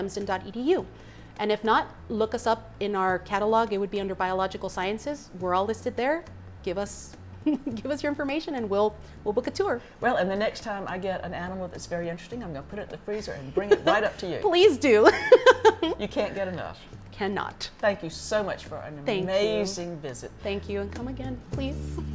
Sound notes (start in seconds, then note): 15.1 laughs